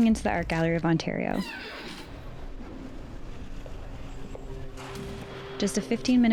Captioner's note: door opening